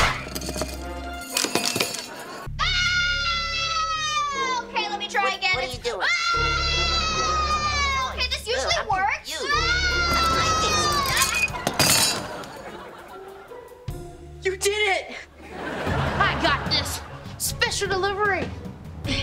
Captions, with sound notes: [screaming] - Okay, let me try again. - What, what are you doing? - Lot’s a noise. Girl, I’m confused. - Okay this usually works. [screaming] You did it! I got this! Special delivery.